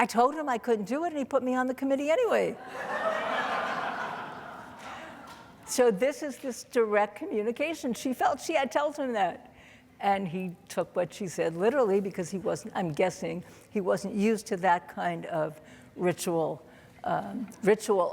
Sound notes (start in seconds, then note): 2.6 audience laughing